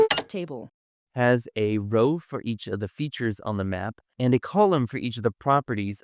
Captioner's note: beep